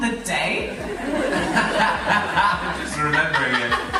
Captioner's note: laughter